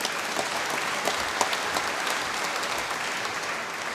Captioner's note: applause